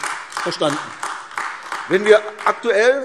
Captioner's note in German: Beifall AfD